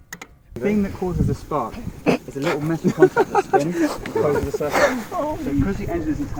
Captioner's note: mechanical speak